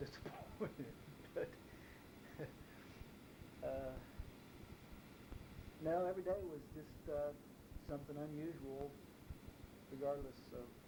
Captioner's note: chuckles